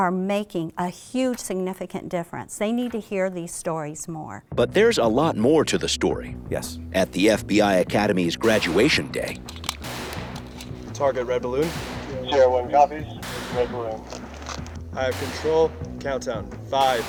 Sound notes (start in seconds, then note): 9.6 gunshots